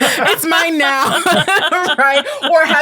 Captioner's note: all laughing